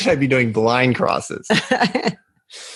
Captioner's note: laugh